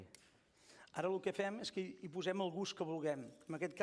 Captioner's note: non-english speech